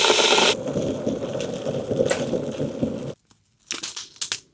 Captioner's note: sizzling